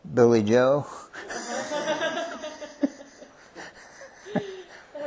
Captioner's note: laughter